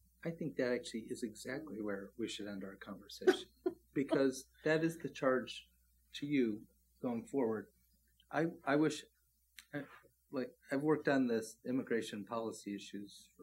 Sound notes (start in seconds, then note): 3.2 laughs